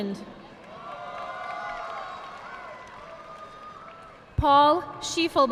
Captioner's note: audience applauding